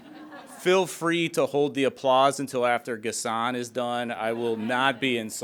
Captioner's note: laughter